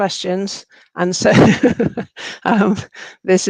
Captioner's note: laughs